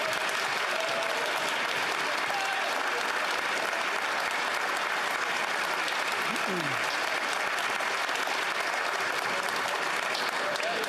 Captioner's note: some Applause